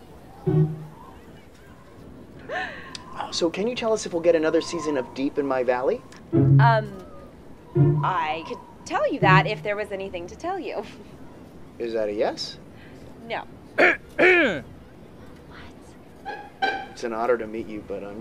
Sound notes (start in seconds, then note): 13.8 loud coughing